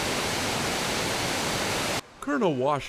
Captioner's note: water crashing